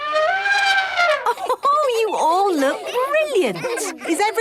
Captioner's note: trumpeting; Mummy Pig laughing